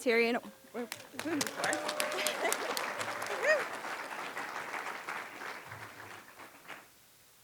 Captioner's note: applause